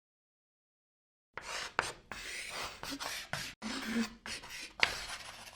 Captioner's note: chalk scratching